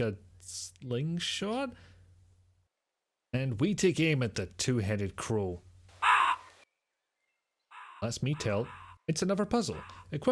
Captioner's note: squawk